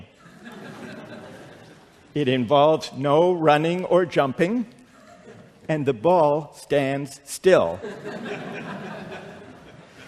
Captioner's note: laughter